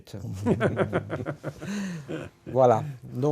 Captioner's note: laughs